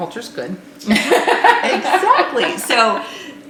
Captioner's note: laughing